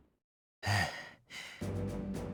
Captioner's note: exertion sigh